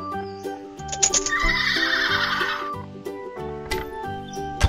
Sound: horse whinnies

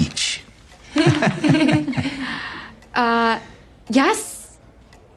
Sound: all chuckling

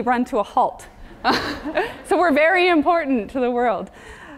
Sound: laugh

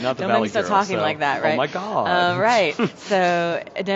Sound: laughs

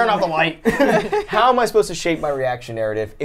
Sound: laughs

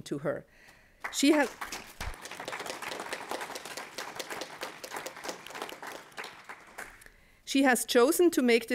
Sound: applause

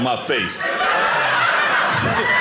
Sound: audience laughing

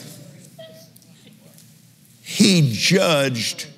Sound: laughs

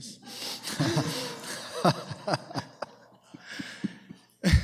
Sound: laughter

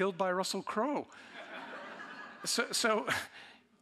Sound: audience laughing

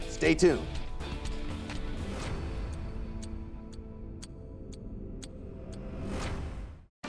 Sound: upbeat music; timer ticking

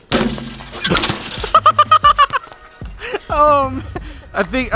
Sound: laughs

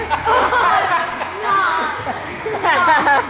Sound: people laughing

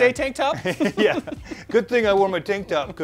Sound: both laughing

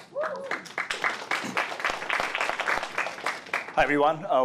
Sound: applause

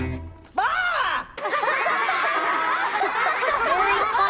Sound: kids laughing

